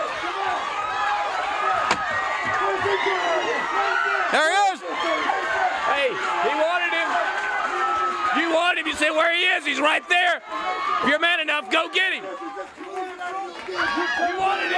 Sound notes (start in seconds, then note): 8.8 crowd cheering; 11.9 crowd cheering